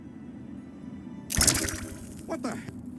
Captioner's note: mesmetron firing